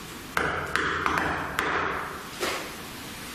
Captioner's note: knocking